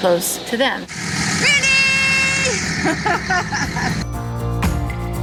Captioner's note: laughing